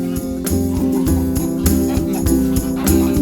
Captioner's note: chicken crowing